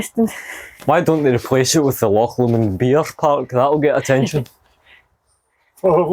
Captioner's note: laughter